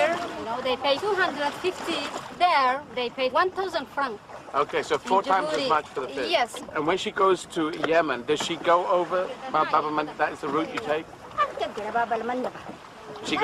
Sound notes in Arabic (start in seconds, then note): 9.8 إدي التحدث بلغة أجنبية; 11.5 متحدثا بلغة أجنبية